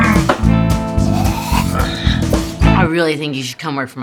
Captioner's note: groans; grunts